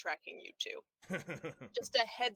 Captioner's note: laughs